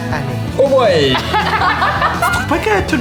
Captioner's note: laughter